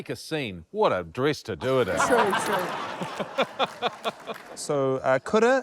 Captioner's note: laughter